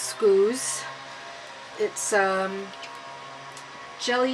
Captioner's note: loud leaf blower outside